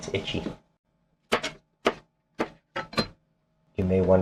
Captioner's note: knife cutting